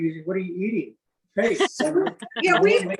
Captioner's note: laughing